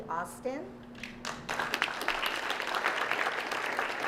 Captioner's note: applause